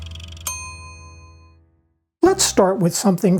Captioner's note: bell dings